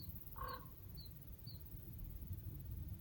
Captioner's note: raven croaking